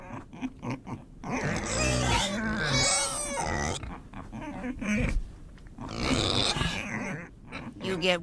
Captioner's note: oinking piggies